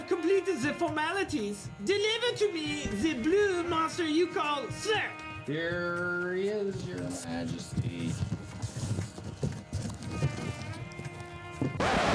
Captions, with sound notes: completed the formalities, deliver to me the blue master you call Cirque. - There is your majesty. (footsteps) (record scratch)